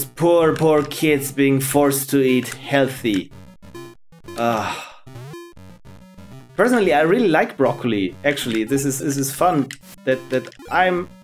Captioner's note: ugh